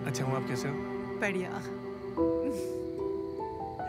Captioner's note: Chuckles